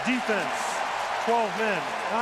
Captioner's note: cheering